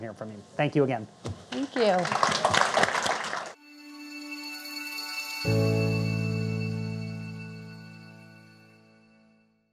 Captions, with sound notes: Thank you again. - Thank you. (audience applauding) (light music)